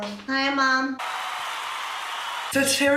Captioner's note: cheering